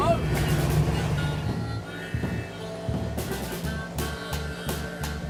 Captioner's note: boat motor running